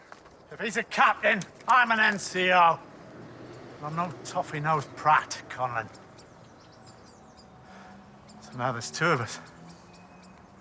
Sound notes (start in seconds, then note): none